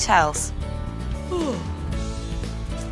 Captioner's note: yawns